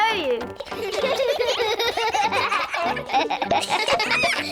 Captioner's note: all giggle